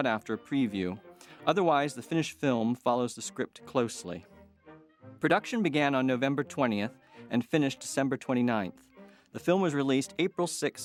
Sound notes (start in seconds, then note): none